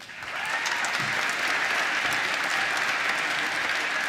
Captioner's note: applause